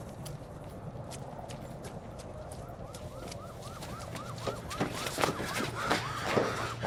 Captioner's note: siren wailing